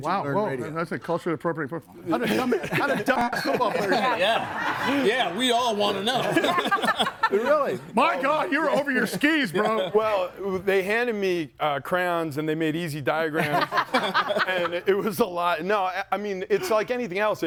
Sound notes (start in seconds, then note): 6.3 group laughs